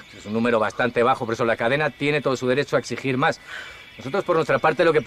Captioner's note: none